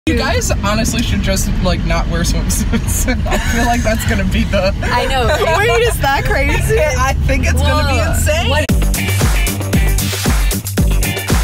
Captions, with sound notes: - You guys honestly should just like, not wear swimsuits. I feel like that's gonna be the-- - I know, right? (laughing) Wait is that crazy? - I think it's gonna be insane. (upbeat music)